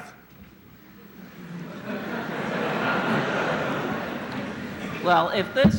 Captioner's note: laughter